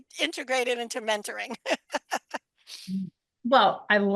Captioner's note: laughter